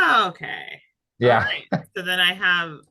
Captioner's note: laughing